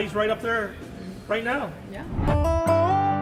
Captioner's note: graphics whooshing; gentle country music